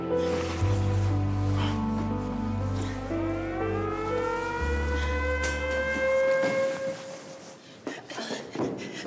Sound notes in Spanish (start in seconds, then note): 3.4 la sirena vuelve a sonar y de pronto se detiene